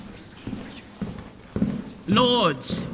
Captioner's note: footsteps